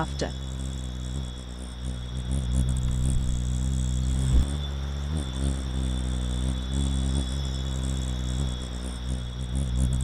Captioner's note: humming noise